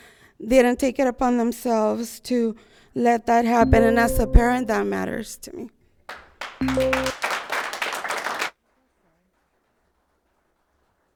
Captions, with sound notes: They didn't take it upon themselves to let that happen, and as a parent, that matters to me. (PA system beeping) (spectators applauding)